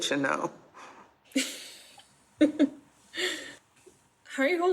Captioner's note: laughs